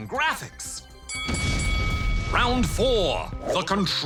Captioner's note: bell dings